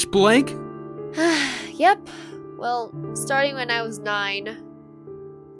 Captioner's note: sighs